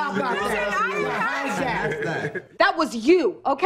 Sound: group teasing and laughing

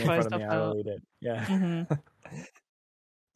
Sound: laughs

